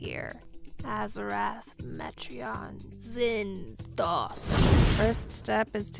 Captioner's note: thunder booming